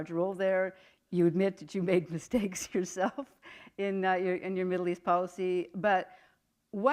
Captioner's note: chuckle